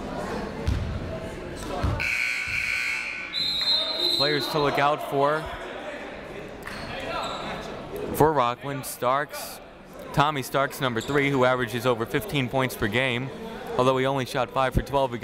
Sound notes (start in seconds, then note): 2.0 buzzer; 2.0 whistle